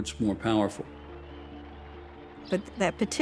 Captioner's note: crowd cheering